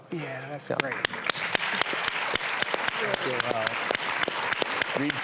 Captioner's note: audience applause